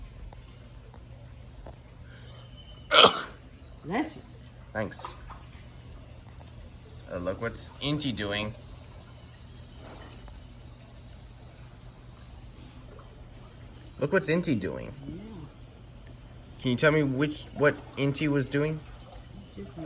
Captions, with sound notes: -[sneezes] Thanks. And look what's it doing? -Bless you. Look what's it doing? Can you tell me what it was doing?